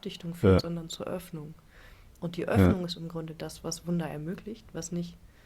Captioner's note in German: räuspern